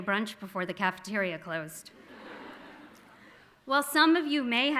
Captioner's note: audience laughing